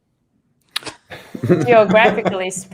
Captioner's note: laughter